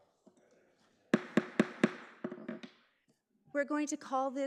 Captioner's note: gavel banging